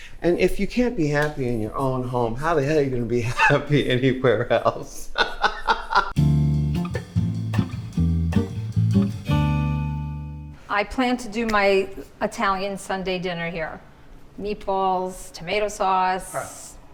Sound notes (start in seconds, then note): 4.9 RuPaul chuckling; 6.2 airy music